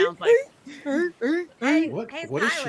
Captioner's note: mimicking seal barking